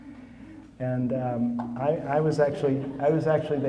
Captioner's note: audience laughing